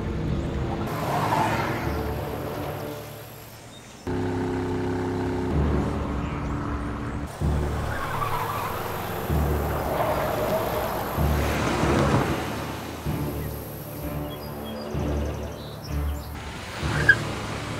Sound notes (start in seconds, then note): 0.8 car screeches